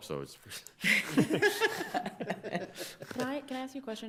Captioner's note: court laughs